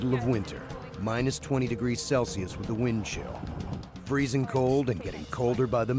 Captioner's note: voiceover